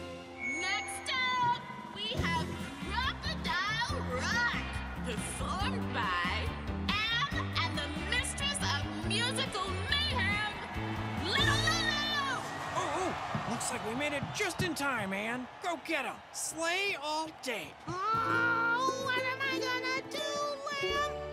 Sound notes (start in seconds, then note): 17.8 groaning